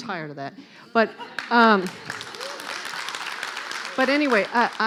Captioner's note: clapping